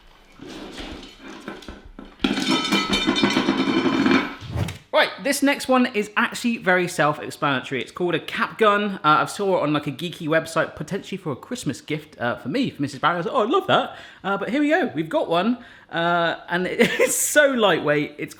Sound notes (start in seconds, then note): 2.1 clattering